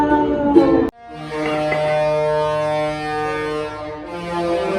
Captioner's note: Ship's horn sounds Love Boat theme